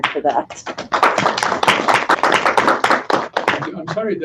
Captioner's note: applause